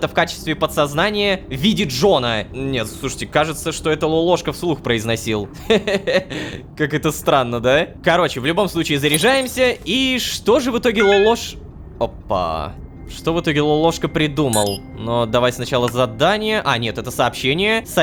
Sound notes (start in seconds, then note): 11.0 notification